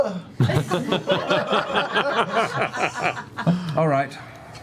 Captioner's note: laughter